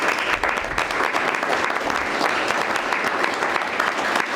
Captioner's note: members applauding